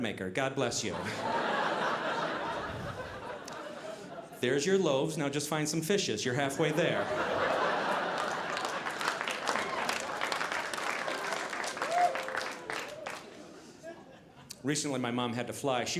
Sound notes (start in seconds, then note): 0.9 audience laughing; 6.5 audience laughing